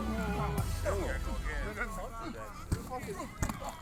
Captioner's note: indistinct chatter